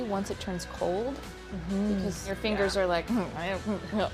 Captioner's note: chuckles